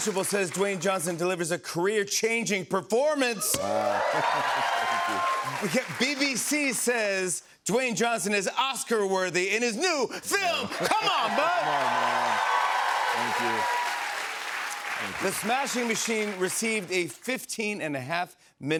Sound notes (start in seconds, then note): 3.3 cheers and applause; 10.3 cheers and applause